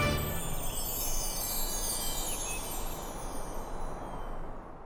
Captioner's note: wind chimes